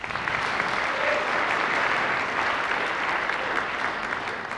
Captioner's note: applause